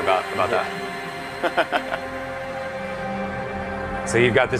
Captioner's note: laughter